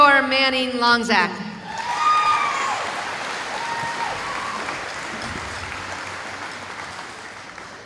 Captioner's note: cheering